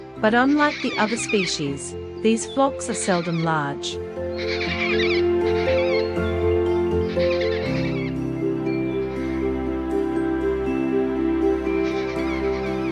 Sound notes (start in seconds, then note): 5.1 bird sounds